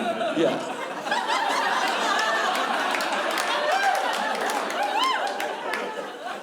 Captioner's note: laughter